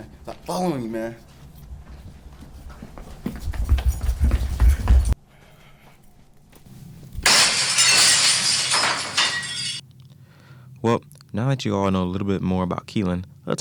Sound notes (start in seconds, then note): 3.0 footsteps falling; 7.2 objects shattering